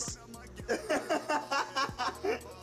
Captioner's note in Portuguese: Whindersson rindo